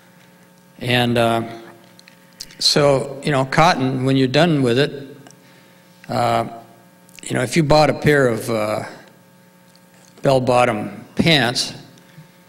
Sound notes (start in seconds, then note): none